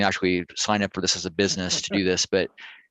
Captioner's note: laughter